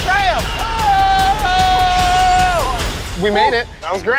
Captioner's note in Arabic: يصرخ